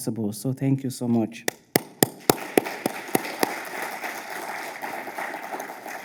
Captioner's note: speaker and audience applauding